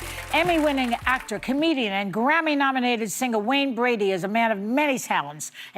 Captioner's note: applause